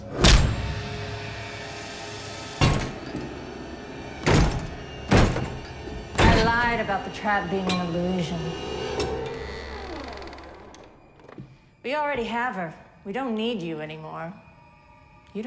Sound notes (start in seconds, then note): 0.2 fist thuds; 1.5 menacing music; 2.5 door lock clanging; 9.3 door creaks